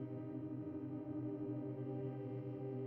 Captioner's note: none